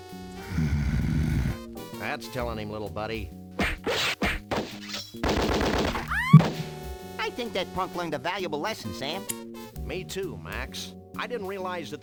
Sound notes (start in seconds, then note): 0.3 deep growl; 3.5 cartoon punching sounds; 3.5 gunfire; 3.5 woman's scream